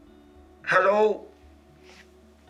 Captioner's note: broadcast Voice